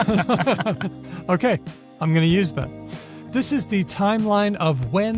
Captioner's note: laughter